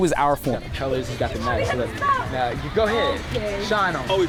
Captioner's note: group conversing